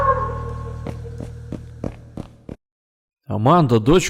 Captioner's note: the sound of running feet